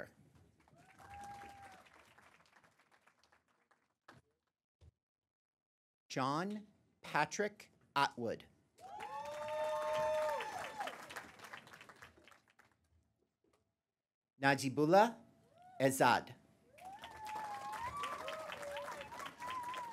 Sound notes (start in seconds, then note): 0.0 applause; 8.8 applause; 16.7 applause